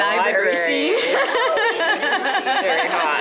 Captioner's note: laughing